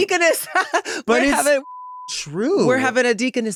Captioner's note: beep